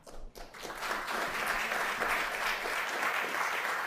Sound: applause

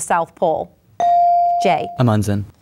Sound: bell dinging

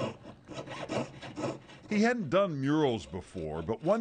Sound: hand saw scraping

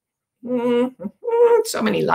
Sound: humming

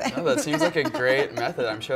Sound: Michelle laughs

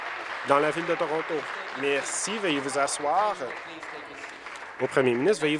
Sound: applause

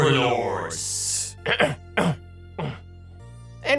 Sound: cough cough cough

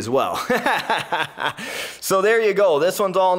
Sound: laughing

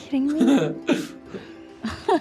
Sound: laughs

